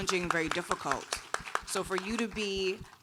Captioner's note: audience applauding